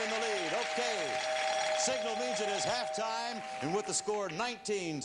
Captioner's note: bell rings